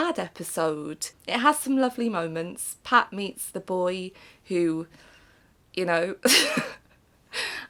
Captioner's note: laughs